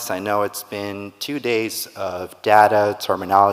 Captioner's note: none